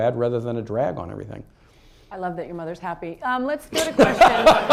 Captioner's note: laughter